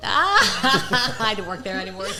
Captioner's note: laughter